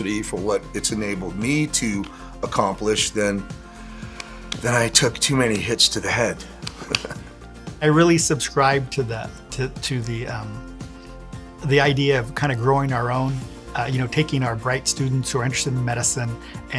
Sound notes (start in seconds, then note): 6.8 laughing